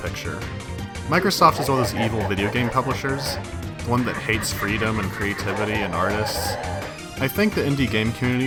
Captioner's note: malevolent demonic laughter